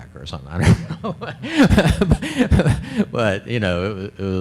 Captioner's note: laughs